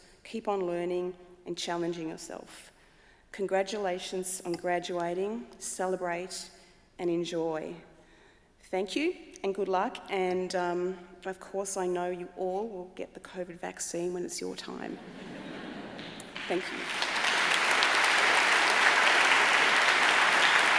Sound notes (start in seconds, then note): 15.0 audience chuckling; 17.4 audience applauding